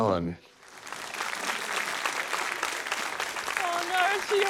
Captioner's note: applause